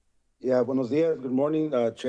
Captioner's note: foreign language